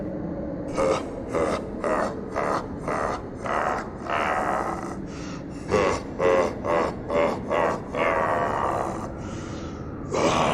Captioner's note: laughs